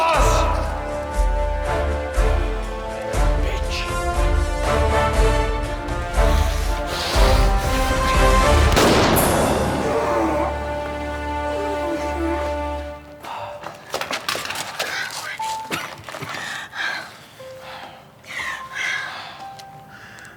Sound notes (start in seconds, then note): 8.6 gun fires; 15.4 coughs